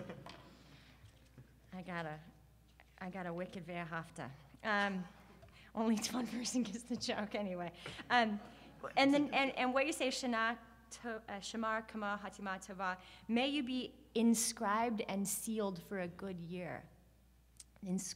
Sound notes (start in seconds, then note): 0.1 audience laughs; 4.5 speaks Hebrew; 11.3 speaking Hebrew